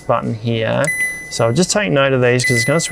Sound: fridge beeps

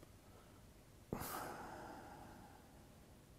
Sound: sigh

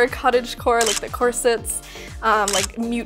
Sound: camera shutter clicks

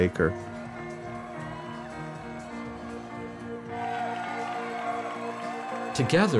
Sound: crowd cheering

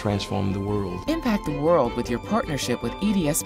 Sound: voiceover

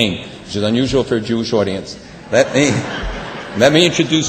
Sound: laughter

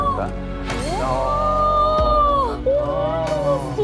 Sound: everyone is exclaiming

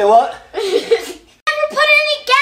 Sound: assistant giggles

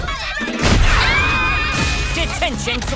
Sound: screaming

